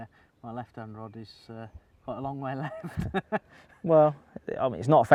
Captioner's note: laughs